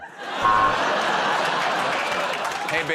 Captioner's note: laughter